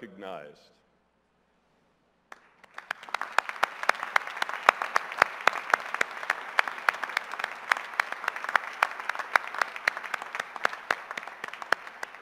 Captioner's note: applause